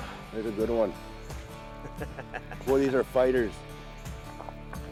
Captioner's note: laughing